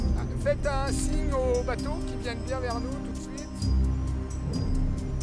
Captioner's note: speaking French